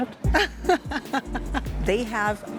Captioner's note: laughs